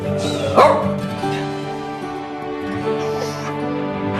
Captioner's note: dog barks; dog yawning